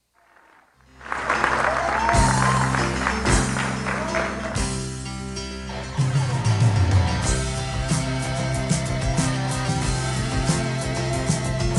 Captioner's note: applause; cheers